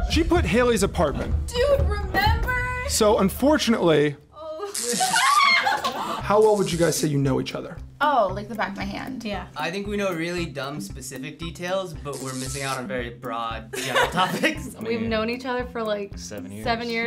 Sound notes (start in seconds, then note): 4.4 screams; 4.7 electricity crackles